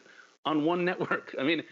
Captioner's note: laughter